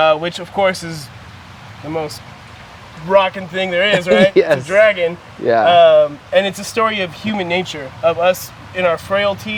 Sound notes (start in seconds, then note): 3.8 laugh